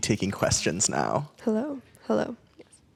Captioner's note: someone tests a mic